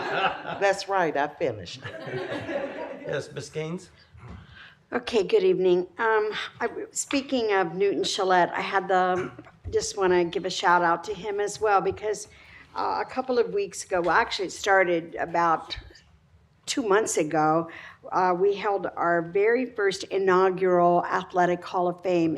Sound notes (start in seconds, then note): 0.0 laughter; 1.8 laughter